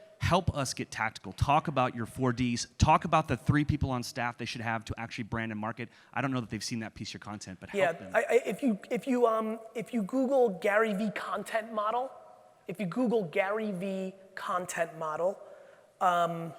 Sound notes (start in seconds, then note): none